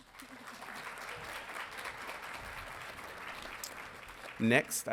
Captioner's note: audience applauding